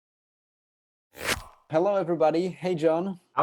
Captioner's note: logo zips